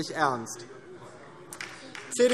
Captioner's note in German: Beifall